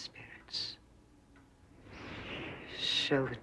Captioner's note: angin bertiup